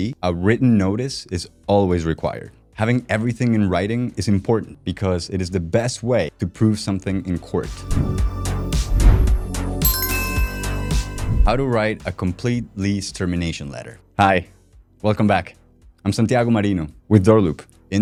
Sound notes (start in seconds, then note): 8.0 bright music; 9.8 bell chiming